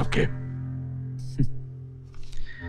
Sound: chuckles

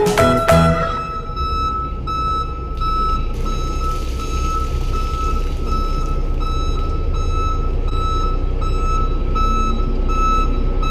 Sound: beeping

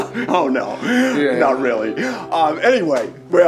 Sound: laughing

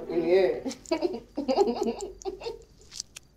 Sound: both giggling

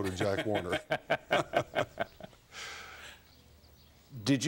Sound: laughs

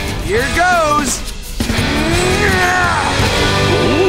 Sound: straining

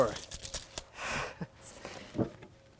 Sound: laughs

